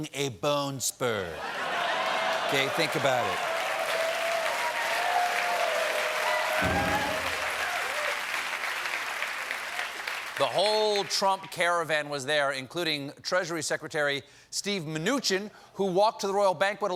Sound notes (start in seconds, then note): 6.1 cheers and applause; 6.6 piano riff